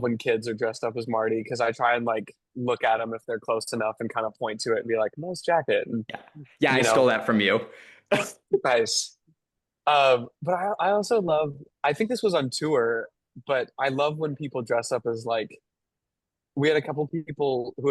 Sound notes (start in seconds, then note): 8.2 laughs